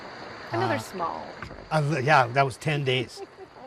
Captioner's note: water splashing